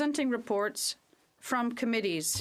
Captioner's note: speaking French